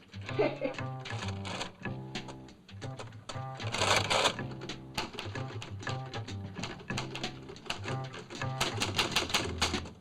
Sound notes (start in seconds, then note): 0.2 jazz beat; 3.5 typewriter chattering; 3.6 machine rattles